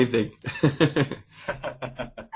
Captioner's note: chuckle